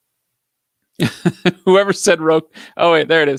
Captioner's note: laughs